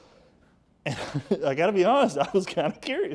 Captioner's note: speaker chuckles